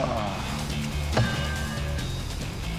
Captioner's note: clanging